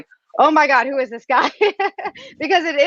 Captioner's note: laughs